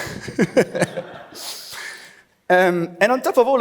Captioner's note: laughs